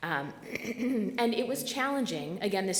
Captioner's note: clears throat